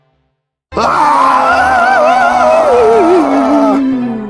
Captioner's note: liam and asher scream